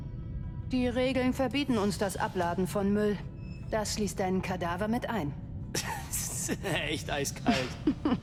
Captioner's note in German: gelächter